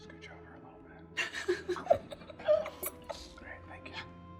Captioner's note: laughing